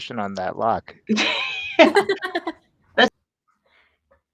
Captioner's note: all laughing